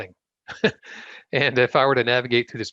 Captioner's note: chuckles